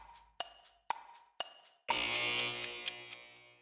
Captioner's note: timer ticking; klaxon buzzes